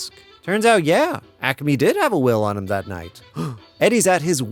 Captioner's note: gasp